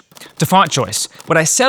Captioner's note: keyboard clicking